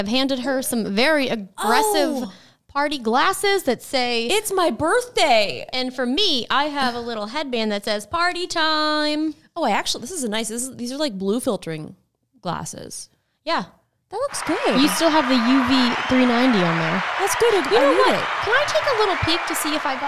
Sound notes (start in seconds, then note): 14.2 crowd cheering